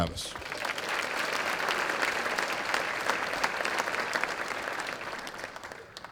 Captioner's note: applause